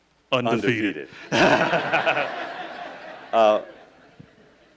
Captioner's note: laughing